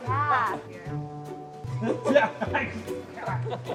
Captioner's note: laughs